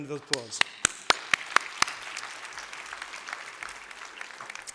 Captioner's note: applause